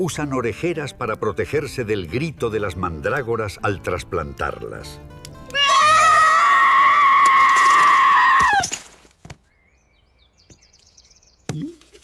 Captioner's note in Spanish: grito